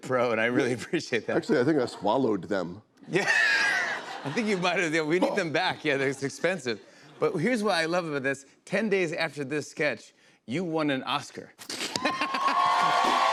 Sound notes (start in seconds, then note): 3.1 laughter; 12.0 cheers and applause